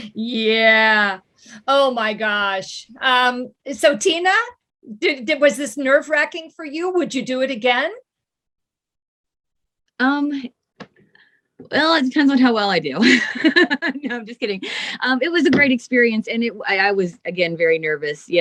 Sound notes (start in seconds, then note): 13.5 laughing